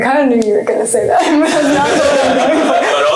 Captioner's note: laughter